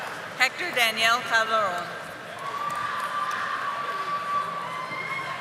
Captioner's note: audience applauding